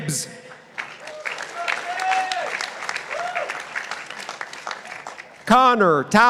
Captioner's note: participants applauding